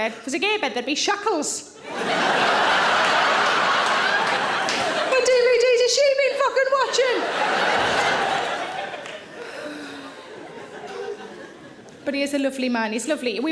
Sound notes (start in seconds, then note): 2.0 audience laughing; 7.4 audience laughing